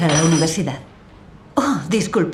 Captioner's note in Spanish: Sonido de una cuchara